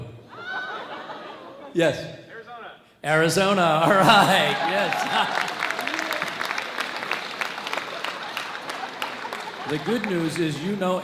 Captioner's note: audience laughs; audience cheers